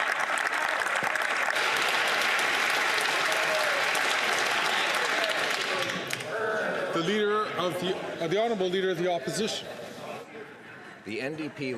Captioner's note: some Applause